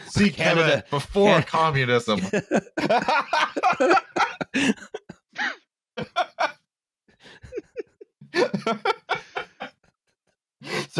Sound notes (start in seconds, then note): 2.1 laughter; 7.2 laughter, in fits and starts